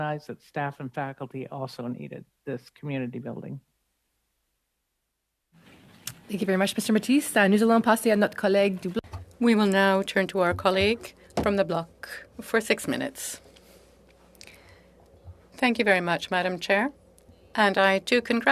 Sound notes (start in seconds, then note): 13.1 speaking French